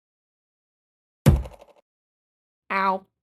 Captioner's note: thud